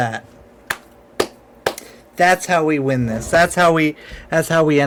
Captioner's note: clapping